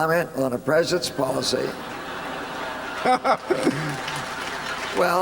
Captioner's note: laughter